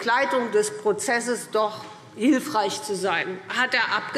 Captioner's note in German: none